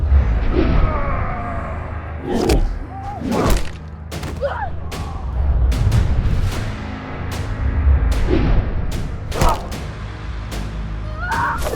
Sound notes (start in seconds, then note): 0.6 screaming; 3.1 cracking